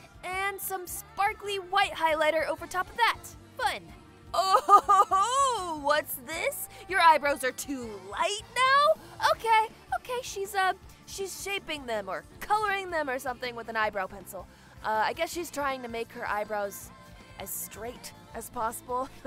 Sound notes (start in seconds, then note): 4.4 snickers